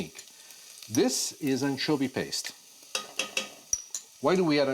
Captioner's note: taps pot